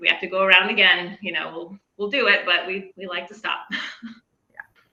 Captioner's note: chuckles